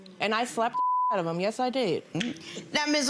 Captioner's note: beep